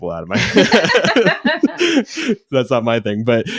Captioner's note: both laughing